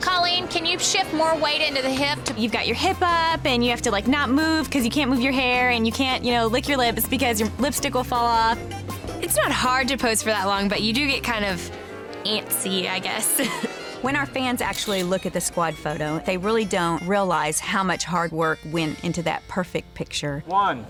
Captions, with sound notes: - Colleen, can you shift more weight into the hip? - You've got your hip up and you have to like, not move. 'Cause you can't move your hair and you can't, you know, lick your lips, because your lipstick will fall off. (laid-back music) - It's not hard to pose for that long, but you do get kind of... Antsy, I guess. (laughing) - When our fans actually look at the squad photo, they really don't realize how much hard work went into that perfect picture.